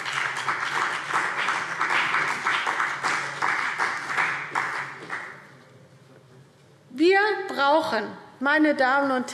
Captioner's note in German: Beifall CDU und BÜNDNIS 90/DIE GRÜNEN